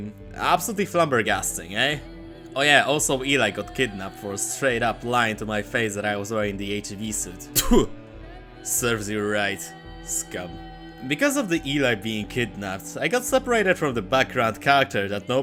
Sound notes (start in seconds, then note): 7.5 spit